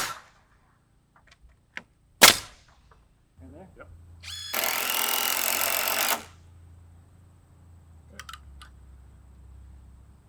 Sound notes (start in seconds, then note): 0.1 nail gun shooting; 6.7 drill buzzing